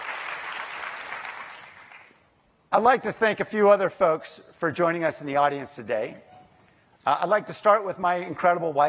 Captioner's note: applause